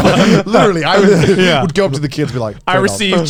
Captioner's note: laughs